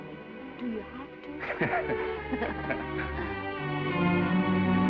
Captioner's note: Esther laughs; Norman laughs; gentle music